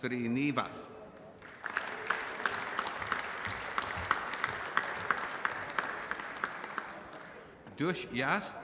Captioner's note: applause